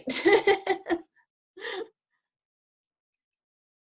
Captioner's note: laughing